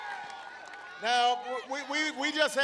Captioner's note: applause